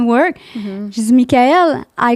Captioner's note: in french